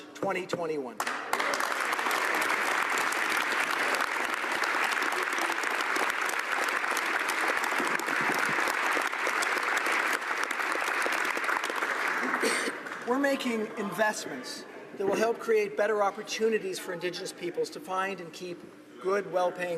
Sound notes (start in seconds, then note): 5.4 applause